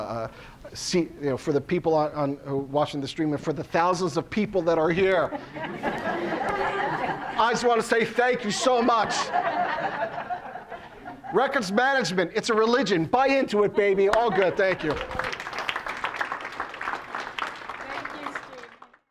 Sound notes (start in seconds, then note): 4.8 audience laughing; 8.5 laughing continues; 14.0 audience claps